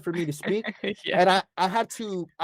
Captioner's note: laughter